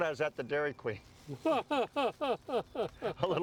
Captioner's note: laughs